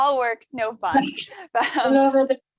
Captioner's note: laughs